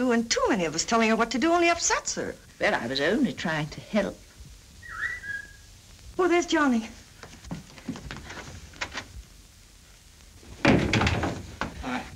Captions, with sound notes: And too many of us telling her what to do upsets her. - Well, I was only trying to help. (whistling) - Oh, there's Johnny.